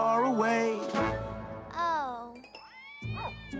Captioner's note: barking; meowing